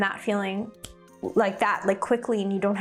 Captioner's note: fingers snapping